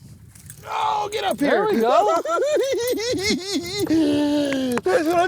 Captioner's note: laughing